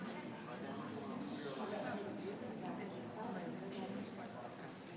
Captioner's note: people chattering